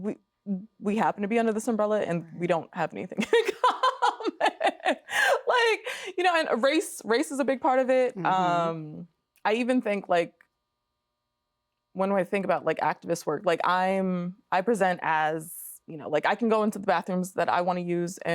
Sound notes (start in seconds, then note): 3.3 laughing